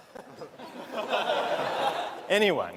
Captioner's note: laughter